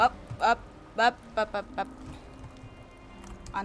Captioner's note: panicked bop noises